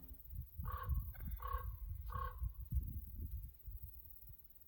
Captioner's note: raven croaking